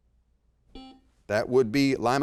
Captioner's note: buzzer beeps